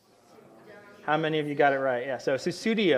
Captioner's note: audience talking